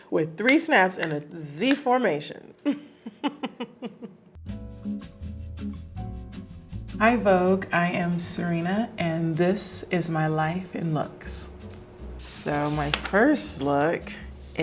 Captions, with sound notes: with three snaps in a Z-formation. [Serena laughing] [light music] Hi, Vogue. I am Serena, and this is my "Life in Looks." So my first look